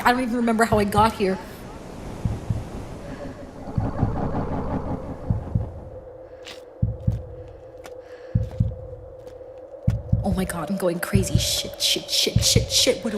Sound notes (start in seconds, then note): 1.7 heartbeats